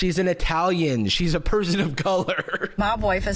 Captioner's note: laughs